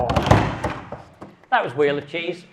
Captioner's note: hands tapping